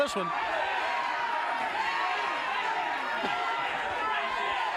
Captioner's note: crowd cheers